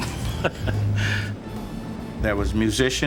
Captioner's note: chuckles